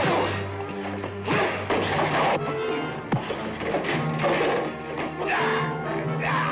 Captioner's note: ax thuds; blows thudding; men groaning